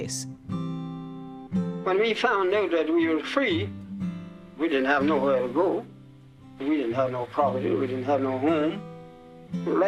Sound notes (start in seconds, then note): 0.1 emotional music; 1.5 fountain